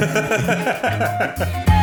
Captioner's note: laughs